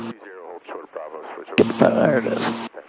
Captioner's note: radio chattering